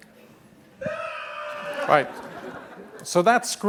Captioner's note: screaming